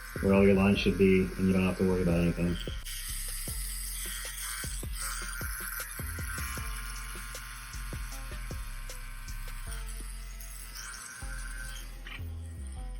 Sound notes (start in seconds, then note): 3.2 slow groovy music; 3.2 tattoo gun buzzing